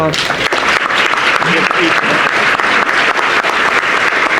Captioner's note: audience applauding